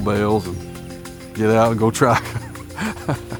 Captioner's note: laughs